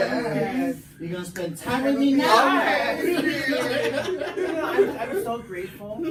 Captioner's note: laughs